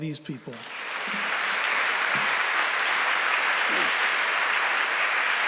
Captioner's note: applause